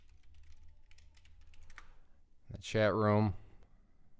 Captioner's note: typing